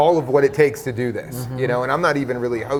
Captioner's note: laughs